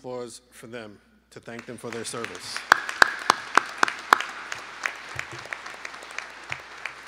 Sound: lead applause

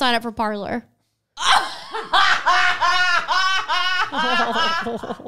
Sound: laughing

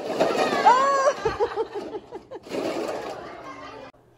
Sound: crashing cups. So much crashing and laughing

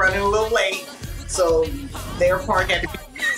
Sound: laughing

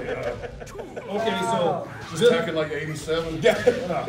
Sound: laugh

